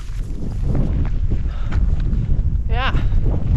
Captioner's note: wind